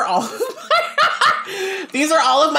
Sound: laughing

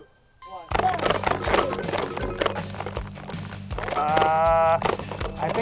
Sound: water guns shooting

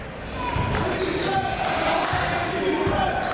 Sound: chatter

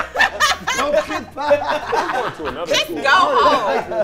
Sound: group laughs

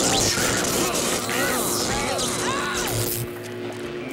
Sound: screaming

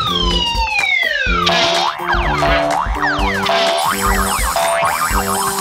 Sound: springs bouncing

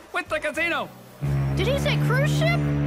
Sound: foghorn blares

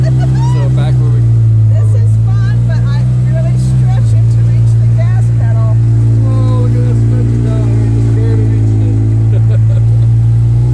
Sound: laughing

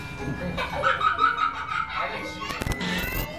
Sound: girls laughing; music drowns out talking

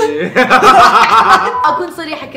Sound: laughter

